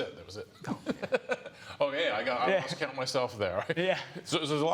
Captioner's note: laughs